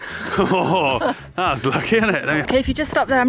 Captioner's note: laughing